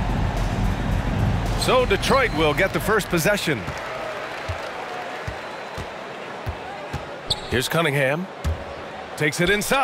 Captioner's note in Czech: Potlesk